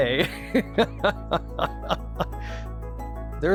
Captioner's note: laughs